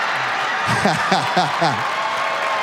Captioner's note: audience laughs; Sinbad laughs; audience applauds